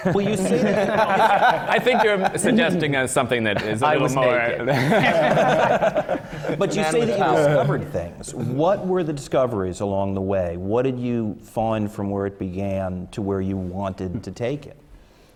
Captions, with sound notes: Well, you seem to – I think you’re suggesting something that is a little more – BOB MARTIN I was naked! (LAUGHTER) But you say that you discovered things. What were the discoveries along the way? What did you find from where it began to where you wanted to take it?